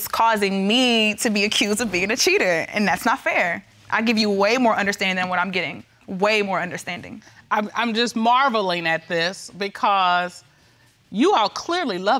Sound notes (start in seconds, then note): none